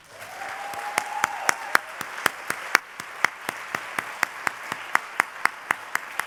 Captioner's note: applause